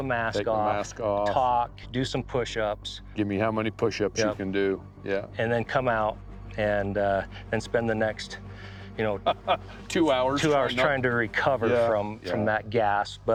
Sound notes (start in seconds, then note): 9.2 laughs